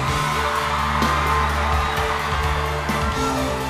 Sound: crowd cheering

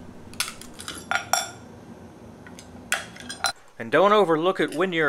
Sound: glass clanking

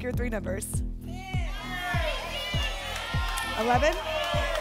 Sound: audience shouting numbers

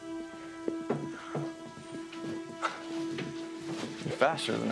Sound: dogs barking

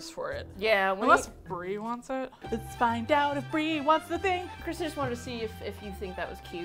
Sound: singsong

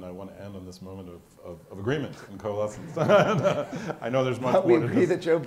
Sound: laughs

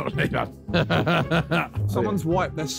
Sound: laughing

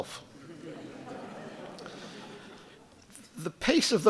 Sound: audience laughing

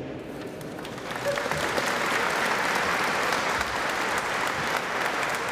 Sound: applause

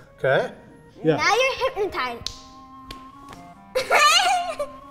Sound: snaps fingers; laughs

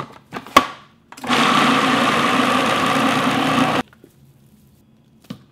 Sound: food processor whirring

